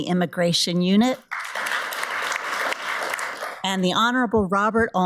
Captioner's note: audience applauds